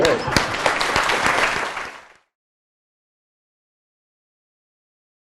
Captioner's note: applause